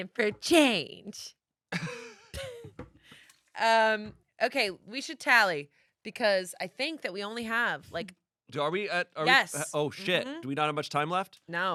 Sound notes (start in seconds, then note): 1.6 laughs